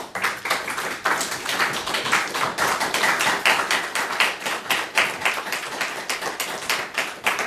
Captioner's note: applause